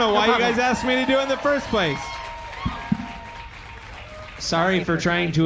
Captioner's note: audience cheering